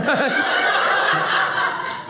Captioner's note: audience laughing